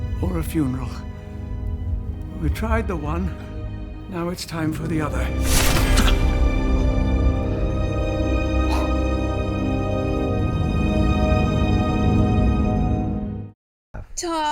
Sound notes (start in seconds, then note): 8.6 gasping; 9.0 ominous music